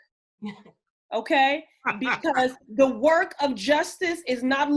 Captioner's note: laughter